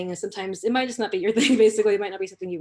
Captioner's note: laughter